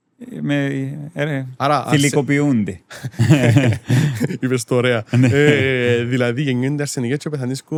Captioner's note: laughter